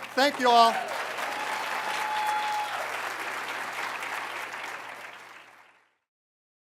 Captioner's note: applause